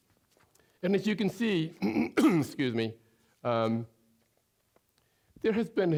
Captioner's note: clearing throat